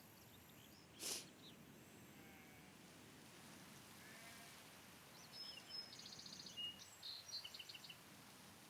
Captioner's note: birdsong